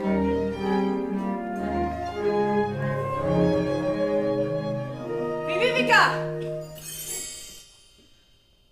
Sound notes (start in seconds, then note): 6.6 magic sounds oOooOo